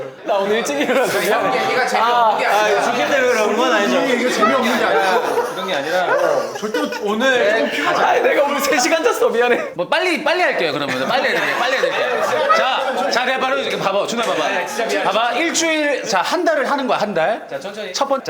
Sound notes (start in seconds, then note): 6.6 sobbing